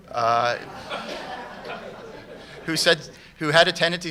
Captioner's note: laughter